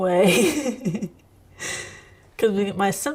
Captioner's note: laughing